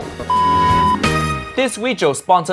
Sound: color bars beep

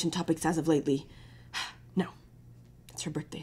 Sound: exhales

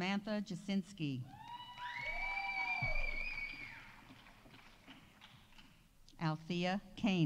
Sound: audience cheering; audience applauding

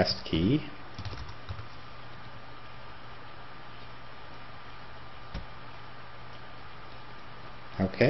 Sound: typing

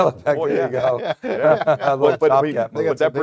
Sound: chuckling

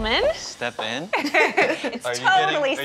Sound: laughing

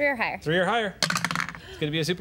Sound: clatter

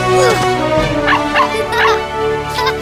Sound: barking

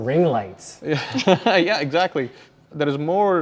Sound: laughs

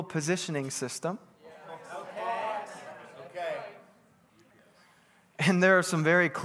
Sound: congregation bustling

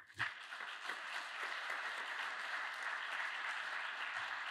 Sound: audience applauds

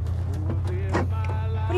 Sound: doors lock

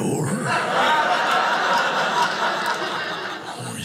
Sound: audience laughing

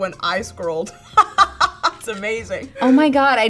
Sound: laughs

